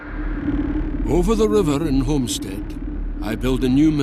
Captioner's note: Voz en off